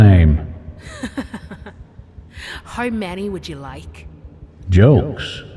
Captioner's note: chuckles